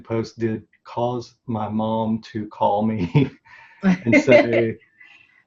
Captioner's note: laughs